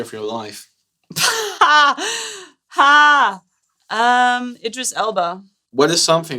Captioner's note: laughter